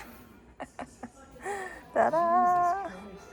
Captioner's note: laughing sad